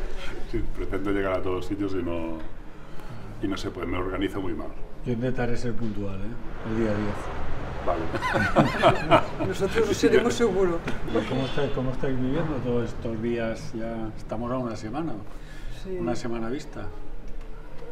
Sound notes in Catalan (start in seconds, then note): 8.1 Risas